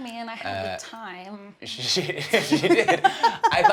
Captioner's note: laughter